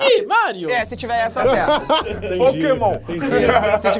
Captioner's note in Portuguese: risadas